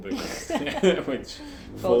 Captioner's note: both laugh